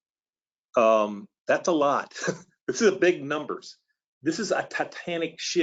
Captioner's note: laughs